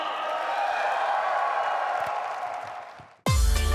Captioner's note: cheers; applause